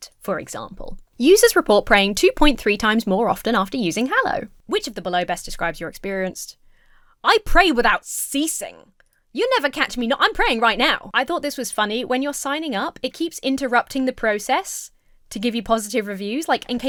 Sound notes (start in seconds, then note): none